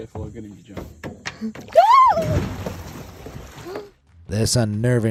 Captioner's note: water splashing; camerawoman screaming